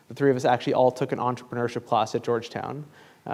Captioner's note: none